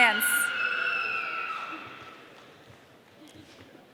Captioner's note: audience cheering